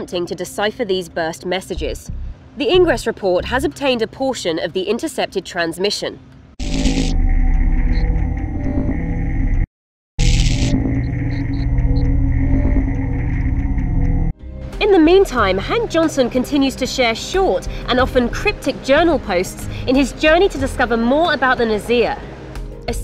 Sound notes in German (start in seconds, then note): 6.5 elektrische Geräusche